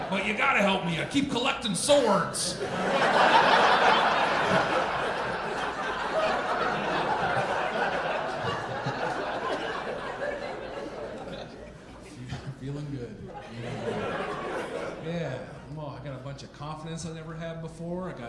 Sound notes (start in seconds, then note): 3.0 audience laughing; 13.2 audience laughing